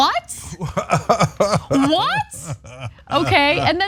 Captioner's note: laugh